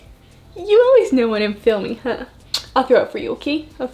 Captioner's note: kissing